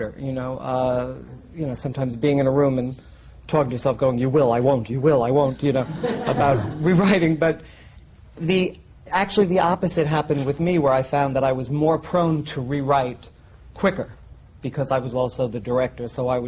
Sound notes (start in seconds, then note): 5.5 laughter